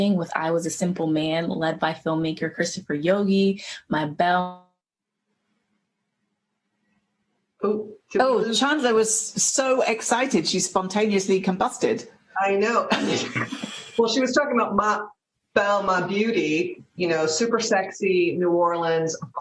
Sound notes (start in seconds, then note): 12.9 laughter